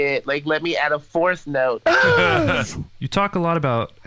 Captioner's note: laughs